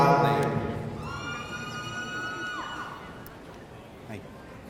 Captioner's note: audience cheering